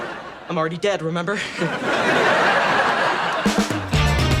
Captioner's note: audience laughs; upbeat music